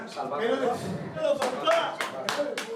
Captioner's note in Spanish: aplauden